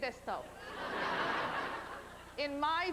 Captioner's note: laughter